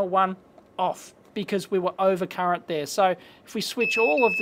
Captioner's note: beeps